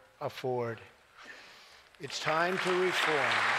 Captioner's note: applause